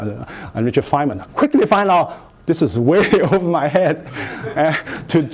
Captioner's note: chuckling